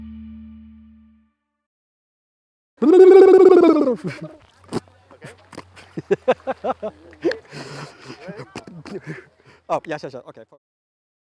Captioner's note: laughter